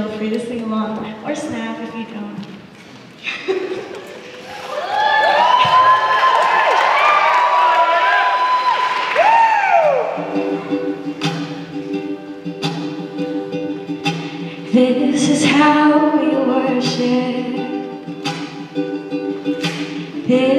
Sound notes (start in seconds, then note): 3.2 laughing; 4.3 audience cheering